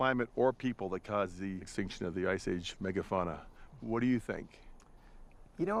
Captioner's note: none